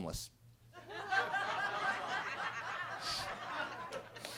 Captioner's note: everybody laughing